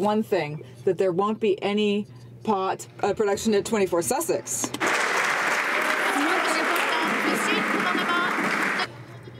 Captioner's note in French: voix de l'interprte